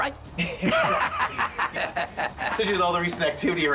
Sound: men laugh

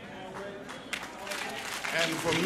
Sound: applause

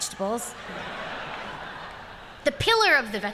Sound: laughter

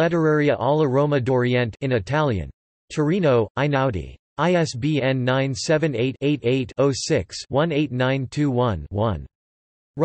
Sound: in Italian

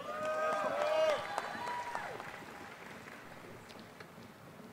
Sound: applause

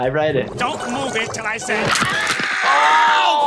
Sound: screaming

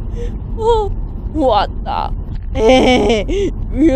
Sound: laughing

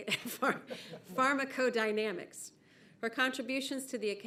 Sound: laughing

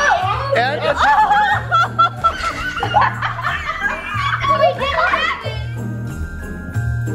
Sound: shouting; laughing; squealing; merry music

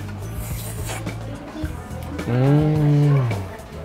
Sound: slurps

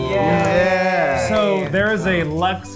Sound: everyone cheering

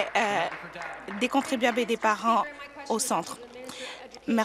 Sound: applause

